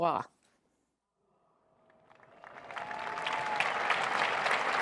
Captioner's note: cheers and applause